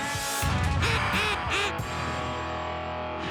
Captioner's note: duck call